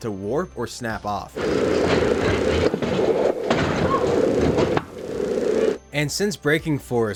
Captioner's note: loud clunking